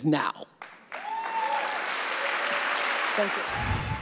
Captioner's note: audience applauds